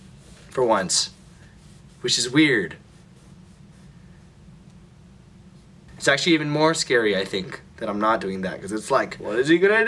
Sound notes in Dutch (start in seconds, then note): 3.3 pijnlijke stilte